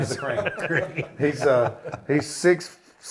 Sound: laughs

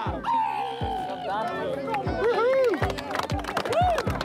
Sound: cheers, applause

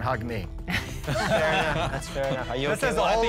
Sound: laughter

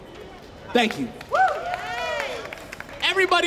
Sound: applause, cheering

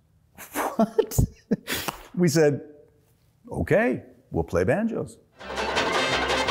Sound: laughs; banjo music

